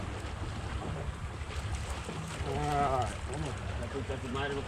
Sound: reel cranking

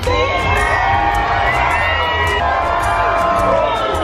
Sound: cheering

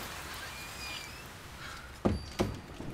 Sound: door closes

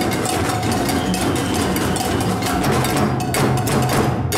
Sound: whistle blows

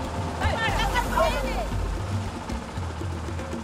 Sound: speaking Indonesian

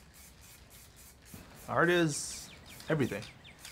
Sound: paint hissing

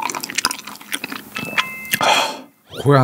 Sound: gulp

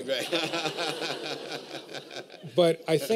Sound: laughter

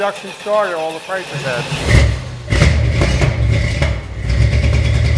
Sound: engine starts; revs engine

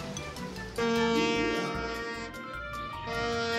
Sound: boat horn toots

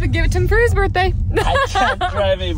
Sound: laughs

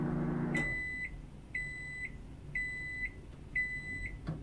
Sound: microwave beeps

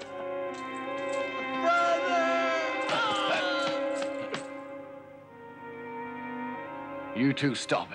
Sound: groans

